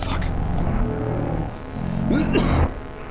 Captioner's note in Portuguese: Distorção de áudio, música; NOAH tosse